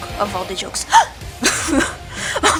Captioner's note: gasp